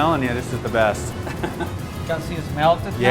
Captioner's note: laughing